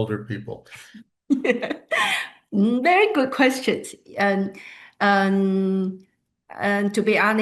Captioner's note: laughs